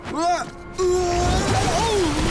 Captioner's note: groaning